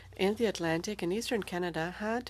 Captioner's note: speaking French